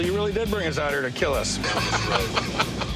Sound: laughter

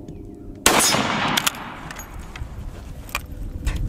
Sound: gun shot

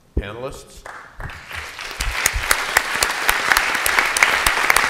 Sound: applause

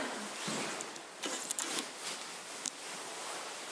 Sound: cloth rustling

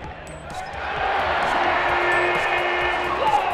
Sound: cheering

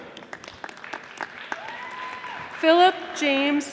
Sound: audience applauding

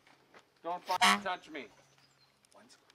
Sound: honk

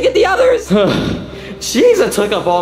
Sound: Mario sighing

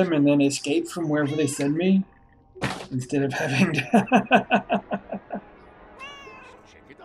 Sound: Hodge meowing; laughs

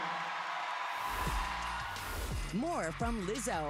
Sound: cheers and applause

